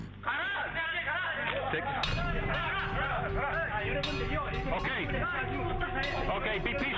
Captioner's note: yelling in foreign language